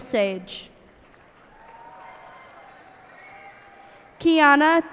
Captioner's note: cheers and applause